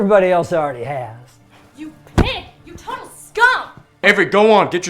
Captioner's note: pillow smacks